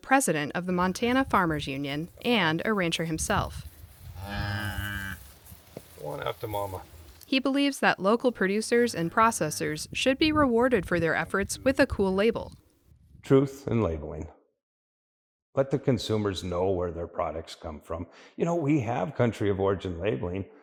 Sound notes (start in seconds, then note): 4.2 cow moos